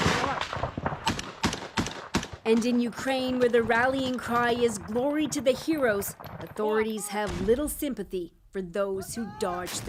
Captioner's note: gunfire